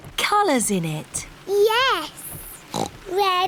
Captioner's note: oinks